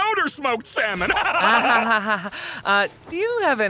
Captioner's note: laughs manically